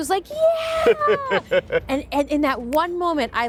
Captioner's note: laughing